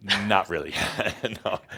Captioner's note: Adamus chuckles